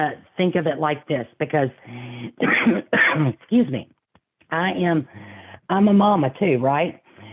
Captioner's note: coughing